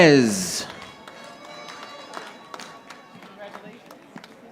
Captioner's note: audience applauding